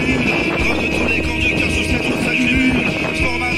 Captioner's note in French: grogne de tous les conducteurs